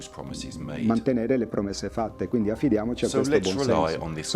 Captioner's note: speaking in foreign language